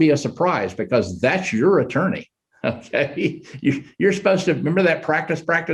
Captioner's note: chuckles